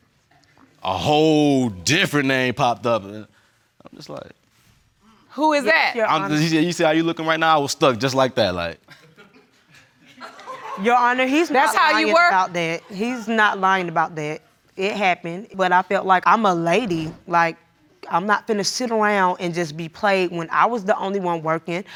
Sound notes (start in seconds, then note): 9.0 audience chuckling